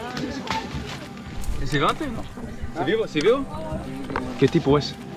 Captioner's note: speaking in foreign language